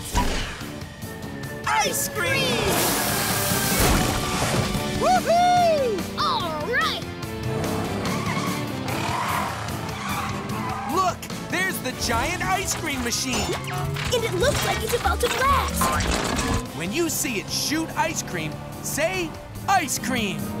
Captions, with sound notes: Ice cream! [cheering] All right! Look, there's the giant ice cream machine. And it looks like it's about to blast. When you see it shoot ice cream, say "ice cream".